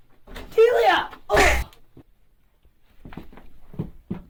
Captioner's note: Daisy grunts